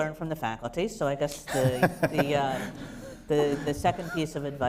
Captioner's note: laughter